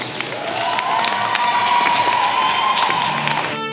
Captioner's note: cheering & applause